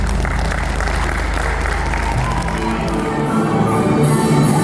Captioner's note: clapping